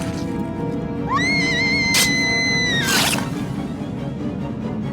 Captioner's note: dramatic music continues; sword squelching; Brooke screams; dramatic music continues